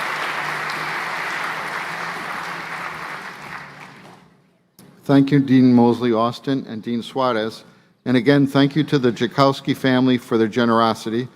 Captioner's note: applause